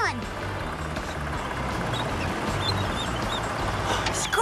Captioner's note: engines Rumble